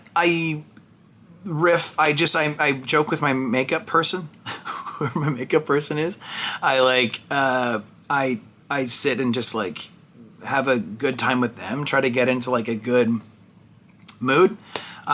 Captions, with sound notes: I riff, I just, I joke with my makeup person, (laughs) whoever my makeup person is. I sit and just like have a good time with them, try to get into like a good mood.